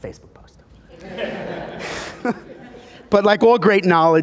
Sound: laughing

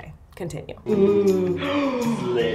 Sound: gasps

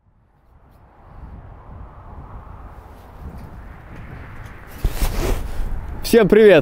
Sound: wind blowing

